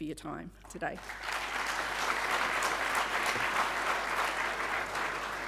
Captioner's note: audience applauding